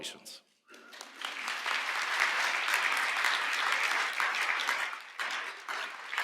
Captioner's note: applause